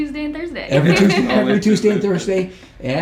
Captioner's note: laughing